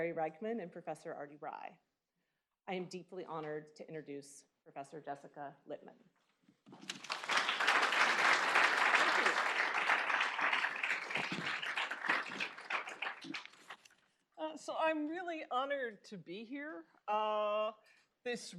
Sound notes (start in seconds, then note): 6.7 applause